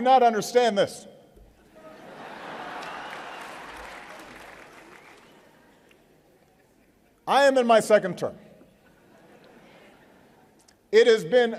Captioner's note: laughter